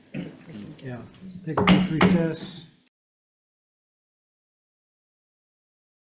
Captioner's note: gavel bangs